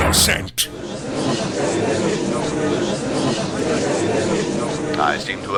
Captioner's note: gallery chattering